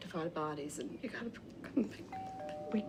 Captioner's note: doorbell rings